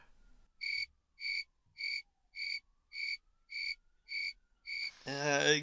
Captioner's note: crickets chirping